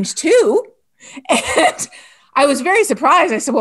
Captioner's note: laughs